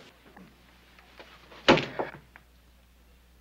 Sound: thud

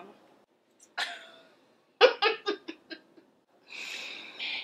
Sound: Fiona laughing

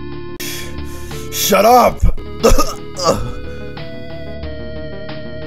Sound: coughs blood

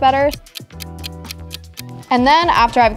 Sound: clock ticking

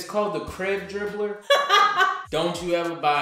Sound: laughter

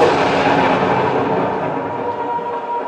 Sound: thunder

